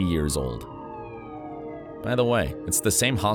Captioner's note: sirens wailing